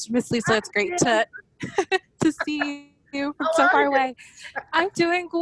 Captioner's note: laughs